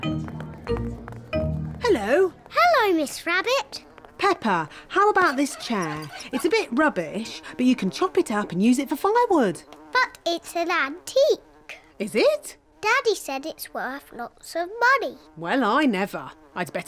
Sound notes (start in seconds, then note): 4.1 flies buzzing